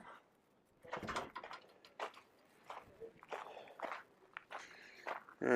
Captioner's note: equipment clattering